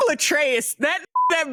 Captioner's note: beep